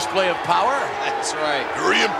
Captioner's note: audience jeers